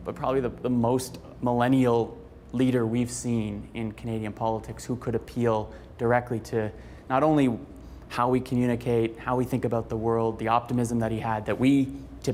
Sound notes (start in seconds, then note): none